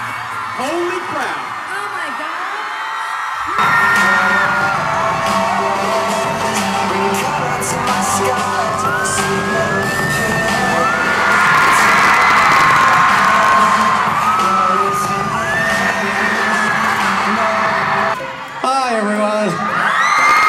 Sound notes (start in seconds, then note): 4.0 rock music; 10.7 crowd cheering